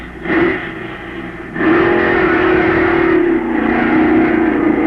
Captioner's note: engines roaring